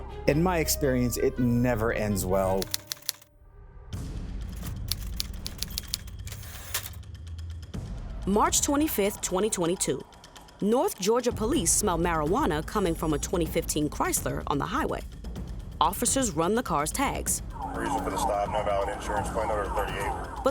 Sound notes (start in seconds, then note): 3.0 typewriter typing; 3.5 dramatic music; 4.9 typewriter dings